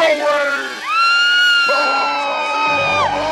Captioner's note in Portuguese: gritos